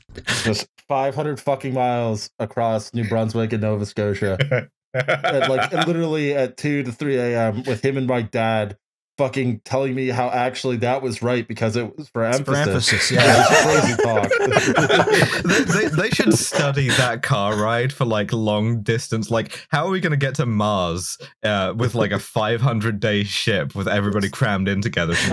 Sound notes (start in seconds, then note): 4.9 laughs; 13.1 laughter